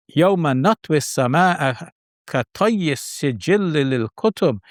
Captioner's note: speaking foreign language